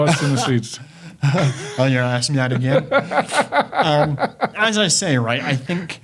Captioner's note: chuckling